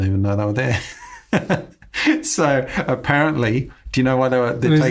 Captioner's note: laughs